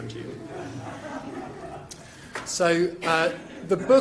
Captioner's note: crowd laughing